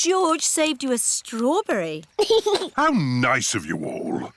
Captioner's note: giggles